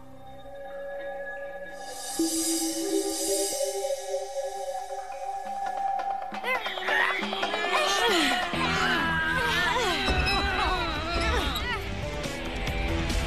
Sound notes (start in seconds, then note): 6.2 grunting